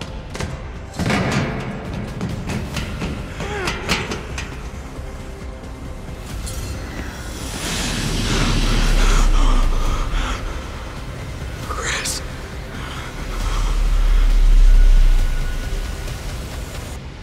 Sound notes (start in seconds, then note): 3.4 Jesse whimpers